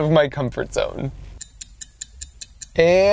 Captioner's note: clock ticking